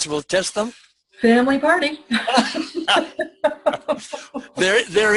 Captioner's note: laughs